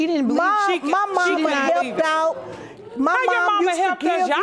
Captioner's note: audience exclaiming